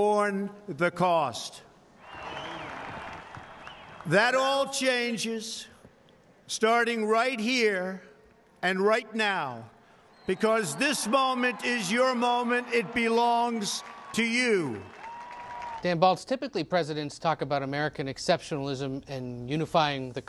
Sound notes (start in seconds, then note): 2.0 cheers, applause; 13.0 cheers, applause